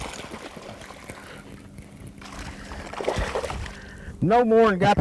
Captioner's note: splashing